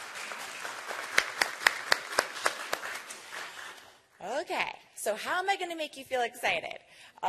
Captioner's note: applause